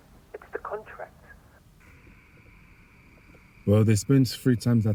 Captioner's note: none